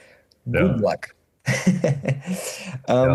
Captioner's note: chuckles